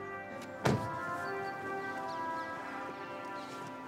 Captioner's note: door clattering